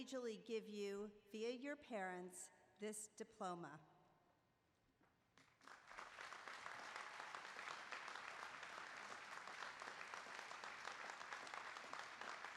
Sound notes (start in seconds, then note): 5.3 applause